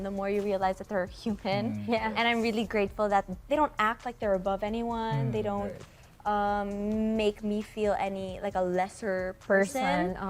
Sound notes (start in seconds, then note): none